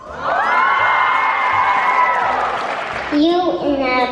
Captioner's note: cheering and applause